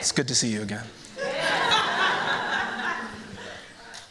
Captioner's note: laughter